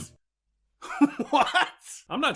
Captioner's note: laughing